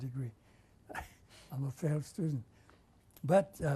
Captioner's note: laughs